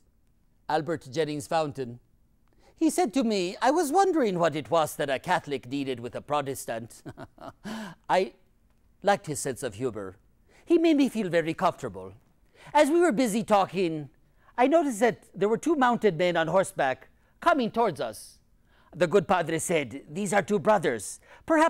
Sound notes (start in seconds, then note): 7.0 laughs